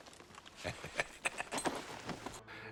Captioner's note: Jack chuckles